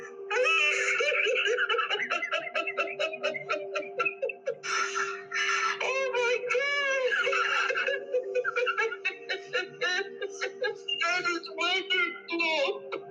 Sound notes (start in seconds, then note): 2.5 crying